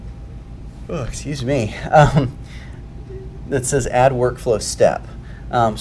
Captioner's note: yawns